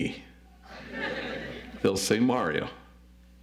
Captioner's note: audience laughs